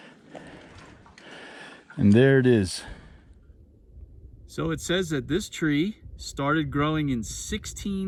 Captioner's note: heavy breathing